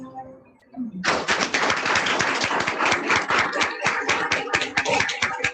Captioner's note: congregation applauding